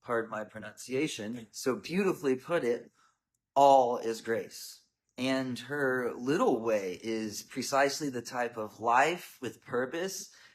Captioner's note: French